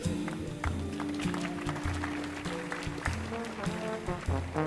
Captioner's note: audience applauding